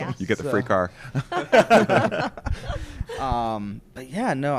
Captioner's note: laughs